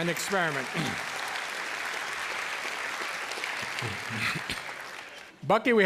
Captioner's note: cheers and applause